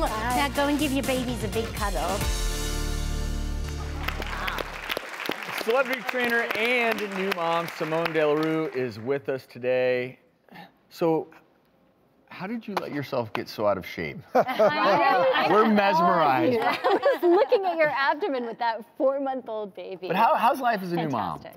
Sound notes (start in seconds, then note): 3.6 audience clapping; 14.4 audience laughing